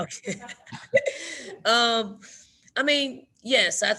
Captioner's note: Dawn chuckles